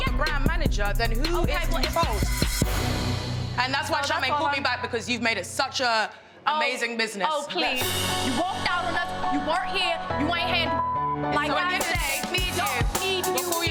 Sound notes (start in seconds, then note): 11.1 beep